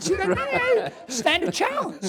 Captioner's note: laughs